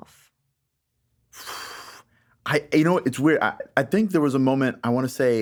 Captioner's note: exhales sharply